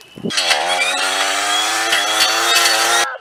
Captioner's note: weed eater Sound